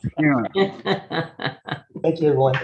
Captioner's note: laughing